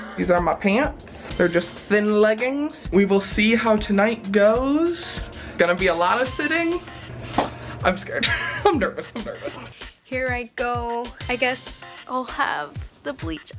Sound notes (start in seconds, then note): 8.2 laughs